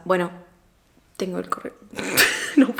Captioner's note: laugh